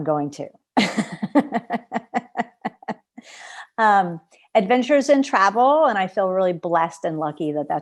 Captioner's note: laughter